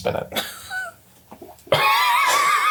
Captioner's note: all laugh